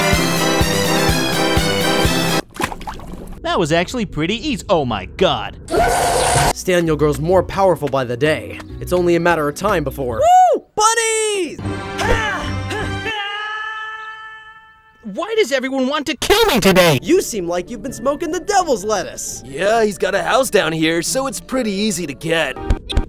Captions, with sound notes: (circus music) That was actually pretty easy. Oh my God. (creature yells) - Staniel grows more powerful by the day. It's only a matter of time before, ooh bunny! (Link yelling) - Why does everyone want to kill me today? - You seem like you've been smoking the devil's lettuce. - Yeah, he's got a house down here. So it's pretty easy to get.